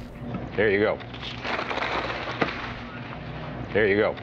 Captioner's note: bag rustles